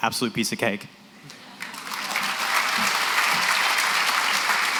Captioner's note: applause